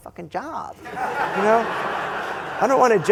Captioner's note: laughter